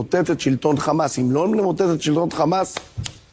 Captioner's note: claps hands